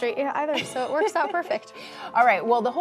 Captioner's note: laughs